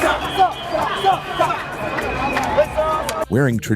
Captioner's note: chanting